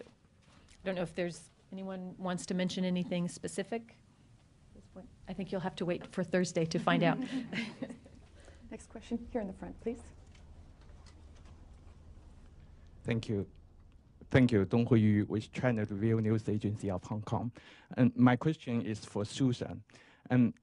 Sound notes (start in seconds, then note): 7.0 laughter